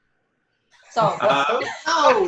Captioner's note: the whole group laughs